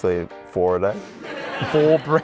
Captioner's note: laughter